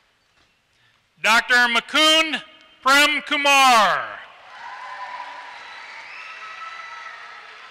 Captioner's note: applause